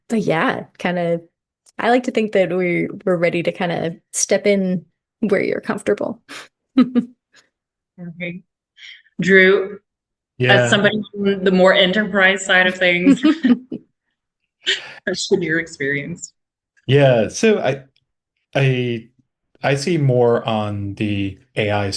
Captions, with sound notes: But yeah, I like to think that we're ready to kinda step in where you're comfortable. (laughs) - Okay, Drew? - Yeah. - As somebody from the more enterprise side of things, what's your experience? - Yeah, so I see more on the AI-assisted workflows